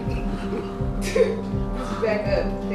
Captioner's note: laughs